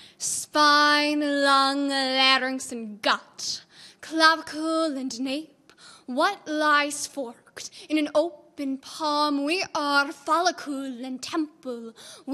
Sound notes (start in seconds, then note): none